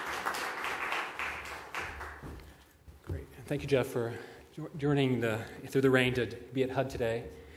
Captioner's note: applause